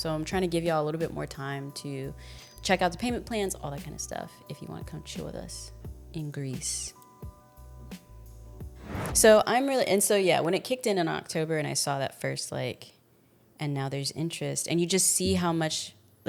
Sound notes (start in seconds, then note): 6.8 soft upbeat music; 8.8 transition sound effect